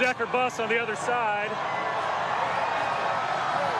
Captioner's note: applause